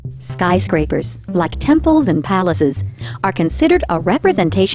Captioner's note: voiceover